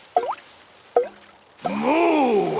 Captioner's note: water dripping